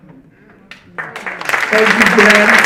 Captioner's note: audience applauding